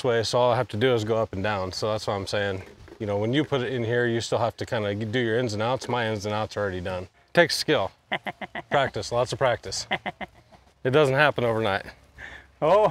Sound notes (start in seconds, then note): 8.0 laughs